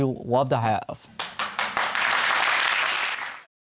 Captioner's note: applause